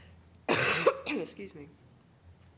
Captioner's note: coughing